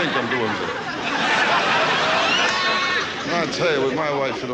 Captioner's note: audience laughs